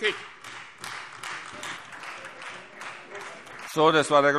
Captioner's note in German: Beifall Freie Demokraten und vereinzelt AfD - Widerspruch BÜNDNIS 90/DIE GRÜNEN